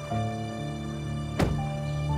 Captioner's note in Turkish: Kapı sesi